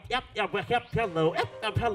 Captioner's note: beatboxing